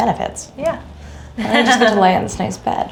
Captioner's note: laughing